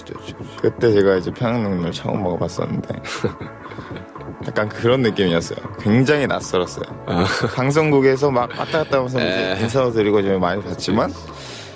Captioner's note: laughs